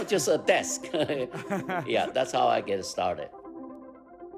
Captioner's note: laughter